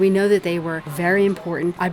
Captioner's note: voiceover